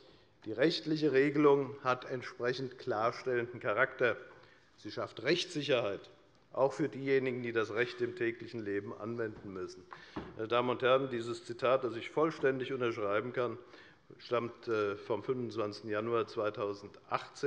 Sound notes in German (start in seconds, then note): none